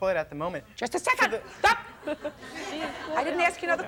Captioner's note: audience laughs